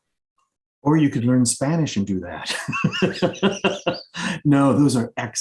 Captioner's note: laughs